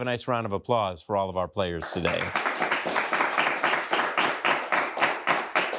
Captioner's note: audience applauding